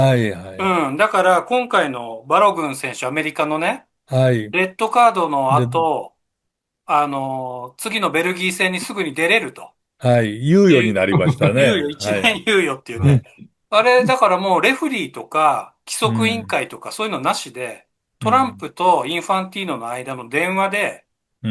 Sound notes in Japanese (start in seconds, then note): 10.5 笑い; 13.4 咳払い